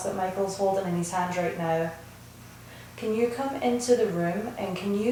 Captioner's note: none